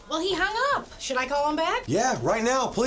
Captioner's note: none